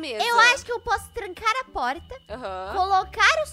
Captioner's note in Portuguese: none